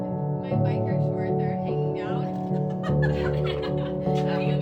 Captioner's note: laughs